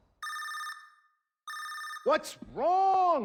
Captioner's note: telephone ringing sound; television sound